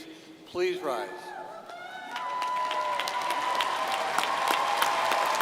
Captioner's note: crowd applauding